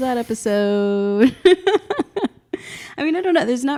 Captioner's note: both laugh